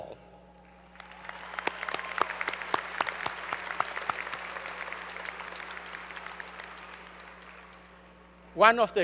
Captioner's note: applause